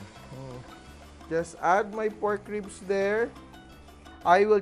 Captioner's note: sizzle